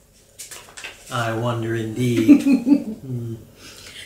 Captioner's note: giggling